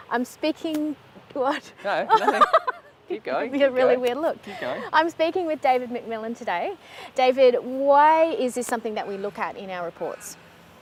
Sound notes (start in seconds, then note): 2.0 laughs